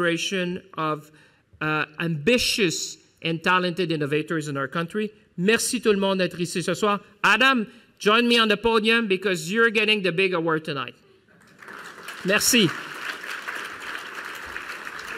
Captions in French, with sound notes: d’innovateurs ambitieux et talentueux de notre pays. Adam, rejoins-moi sur la scène pour que je te remette cet incroyable prix. (Applaudissements) Merci.